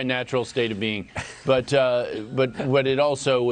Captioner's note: laughter